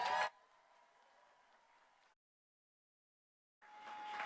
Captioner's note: applause